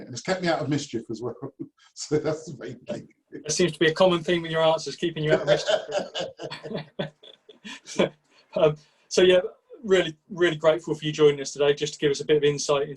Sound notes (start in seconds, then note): 1.6 chuckles; 5.2 laughs